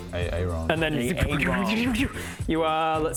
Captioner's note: teleporty noises